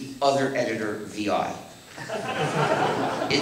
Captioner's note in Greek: Γέλια από το ακροατήριο